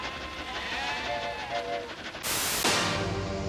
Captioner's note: <i> mooing and bleating</i>